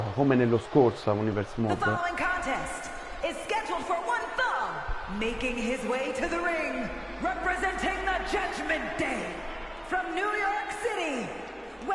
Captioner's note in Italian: Applauso